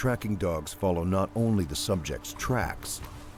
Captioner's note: voiceover